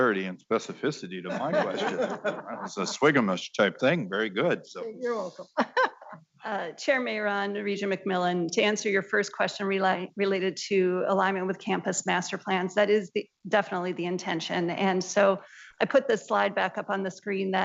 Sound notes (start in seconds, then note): 6.3 laughs